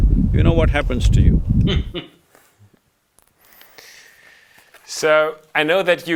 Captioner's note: laughs